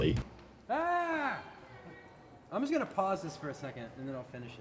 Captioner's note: yells